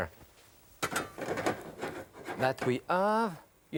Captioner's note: pan clatters